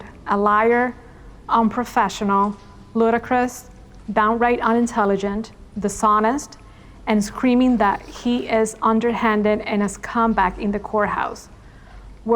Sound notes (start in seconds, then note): none